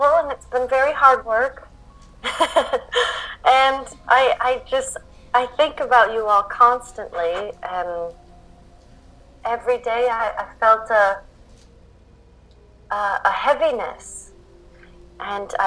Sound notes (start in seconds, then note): 2.2 laughs